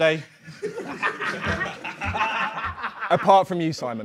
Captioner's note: Sidemen laugh